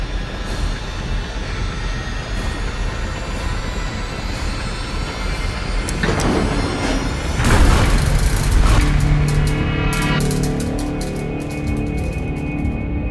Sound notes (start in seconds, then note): 1.4 slow dramatic music continues; 7.1 elevator rattles